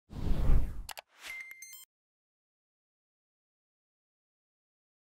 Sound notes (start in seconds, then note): 1.2 beeping